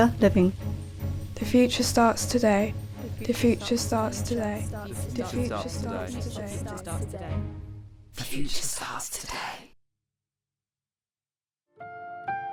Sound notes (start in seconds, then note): 2.3 multiple voices whisper; 3.0 multiple voices